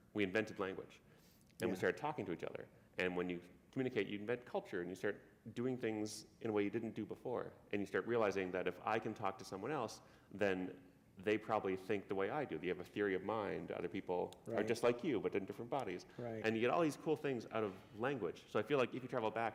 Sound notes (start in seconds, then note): none